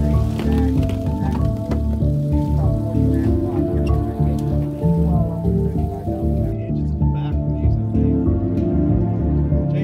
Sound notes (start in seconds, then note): 0.0 crowd chattering; 0.0 soft music